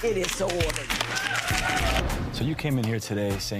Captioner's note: audience applause